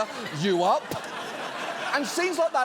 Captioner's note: audience laughs